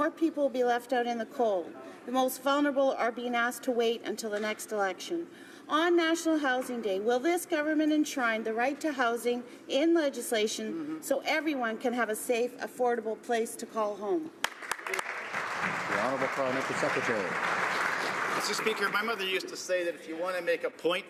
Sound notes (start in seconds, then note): 17.5 some Applause